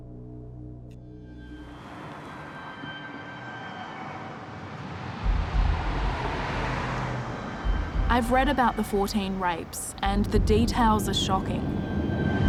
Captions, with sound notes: (traffic whooshing) (suspenseful music) I've read about the 14 rapes and the details are shocking.